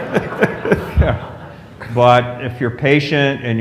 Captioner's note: laughter